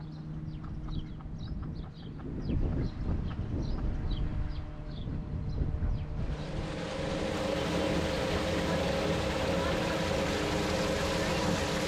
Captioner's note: wind blowing, water running